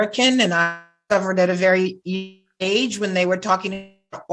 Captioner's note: audio distorting